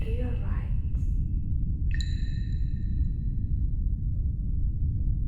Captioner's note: water drips